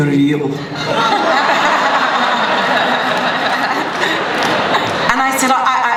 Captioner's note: laughter